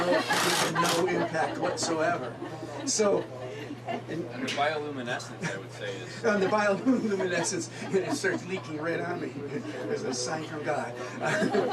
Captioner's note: audience laughs